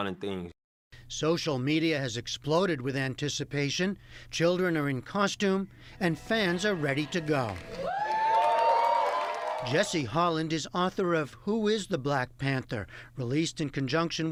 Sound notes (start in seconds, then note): 6.9 cheering and applause